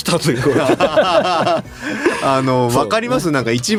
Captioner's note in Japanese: 笑い